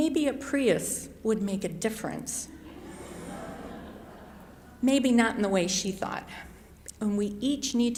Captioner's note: chuckles